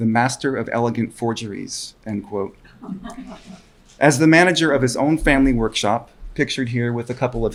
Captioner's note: laughter from audience